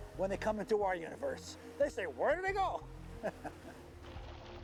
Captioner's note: chuckles